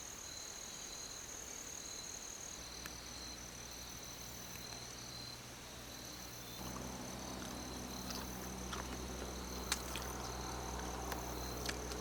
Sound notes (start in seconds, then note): 7.9 sound of chewing